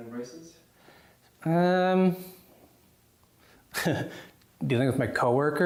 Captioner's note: laughs